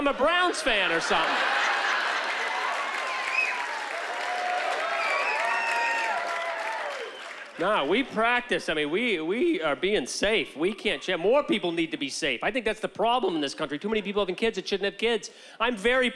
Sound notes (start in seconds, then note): 2.3 laughter; 4.3 cheering